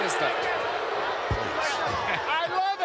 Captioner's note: crowd boos